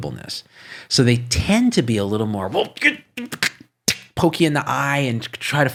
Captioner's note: grunts